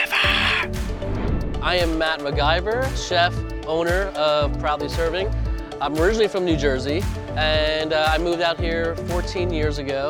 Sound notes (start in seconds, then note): 0.5 air whooshing